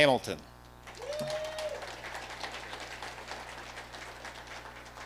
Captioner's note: audience applauding